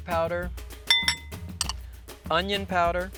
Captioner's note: glass bowl clanking